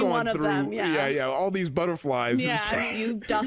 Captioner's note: laughs